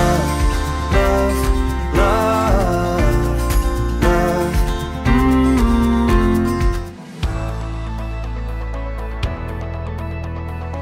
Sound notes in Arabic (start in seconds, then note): 4.4 طنين; 7.2 متفائلة الموسيقى